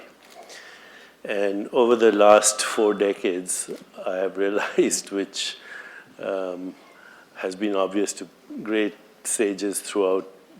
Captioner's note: laughs